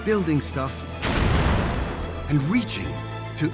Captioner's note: explosion